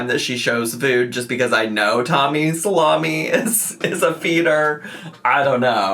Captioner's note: laughs